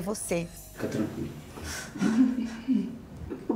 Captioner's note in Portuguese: soluça